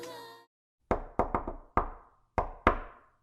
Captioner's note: door knocking